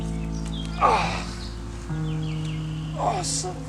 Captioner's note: grunts